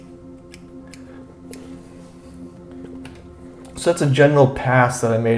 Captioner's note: scissors snipping